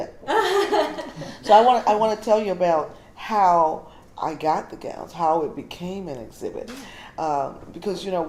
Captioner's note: laughter